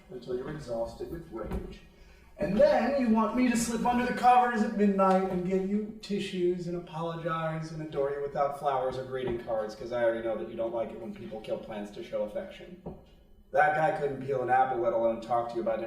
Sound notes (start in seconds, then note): none